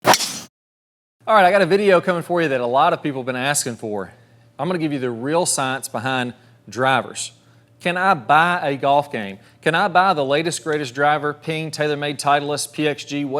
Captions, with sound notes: (golf club hitting ball) - All right, I got a video coming for you that a lot of people have been asking for. I'm gonna give you the real science behind drivers. Can I buy a golf game? Can I buy the latest, greatest driver, Ping, TaylorMade, Titleist, PXG,